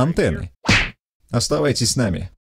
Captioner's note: slap!